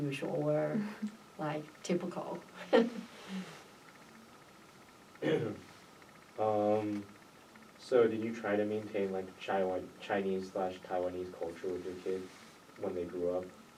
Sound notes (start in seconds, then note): 2.6 laughs; 5.2 clears throat